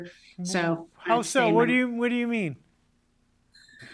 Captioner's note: audio distorts